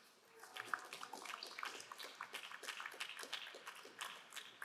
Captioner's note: crowd applauding